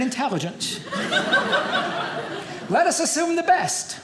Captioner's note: audience laughing